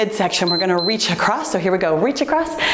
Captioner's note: timer beeps